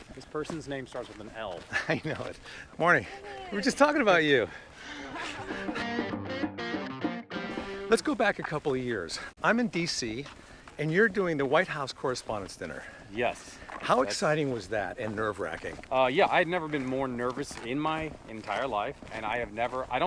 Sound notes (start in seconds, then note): 1.6 laughs; 4.8 woman laughs; 5.5 energetic rock music